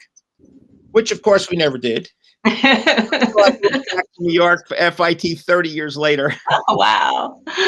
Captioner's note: laughter